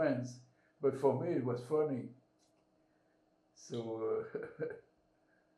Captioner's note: laughing